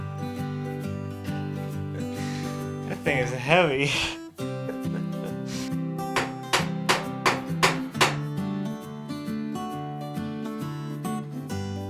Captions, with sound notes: That thing is heavy (chuckles). (hammer pounding) (gentle guitar music)